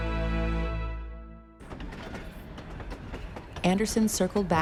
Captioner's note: train rumbling